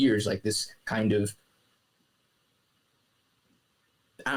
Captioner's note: silence